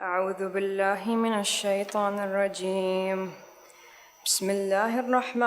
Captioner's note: recites in foreign language